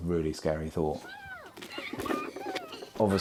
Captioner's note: children laughing